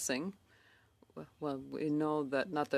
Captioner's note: speaking in French